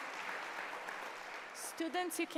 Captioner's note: applause; applause and cheering